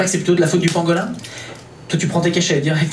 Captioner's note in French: bruit de tablettes de médicaments